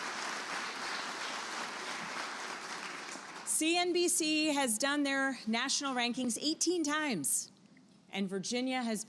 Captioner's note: applause